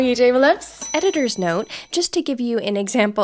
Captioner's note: bell ringing